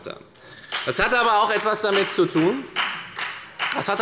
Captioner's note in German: Beifall bei der FDP